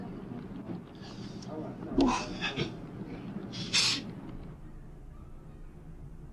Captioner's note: background office noise; background neighborhood noise